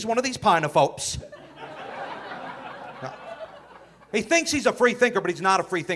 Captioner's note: audience laughing